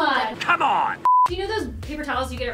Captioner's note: beep sound